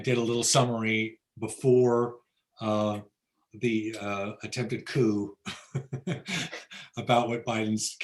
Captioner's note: laughs